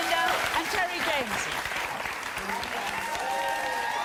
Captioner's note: audience cheering